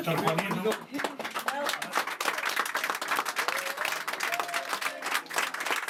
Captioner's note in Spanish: Aplausos